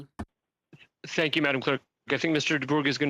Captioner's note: speaking French